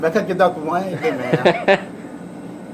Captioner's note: laughs